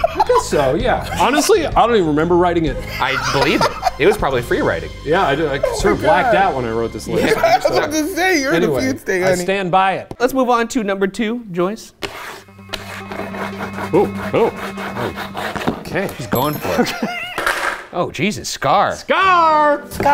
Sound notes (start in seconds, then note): 12.0 scraping board; 12.4 suspenseful music; 14.8 scraping board